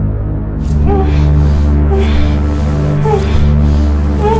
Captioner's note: woman whimpering